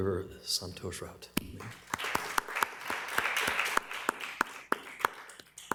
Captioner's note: applause